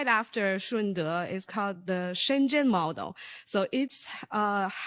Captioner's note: speaking in foreign language